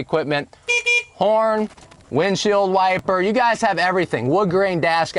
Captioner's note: horn honk